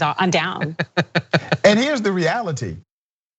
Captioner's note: laugh